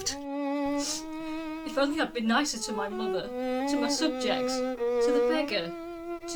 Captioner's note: sniff!